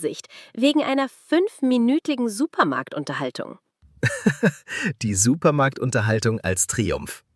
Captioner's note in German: gelächter